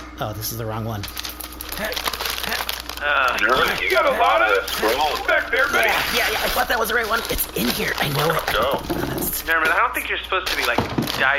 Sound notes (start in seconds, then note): 8.0 digging